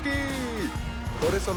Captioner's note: cheers and applause